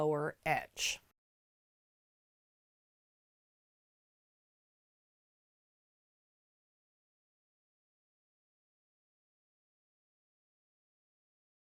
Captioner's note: no Sound Present